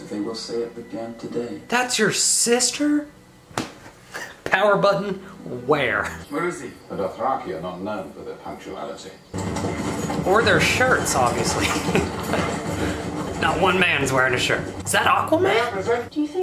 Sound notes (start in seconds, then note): 9.3 hoofbeats; 11.5 laughs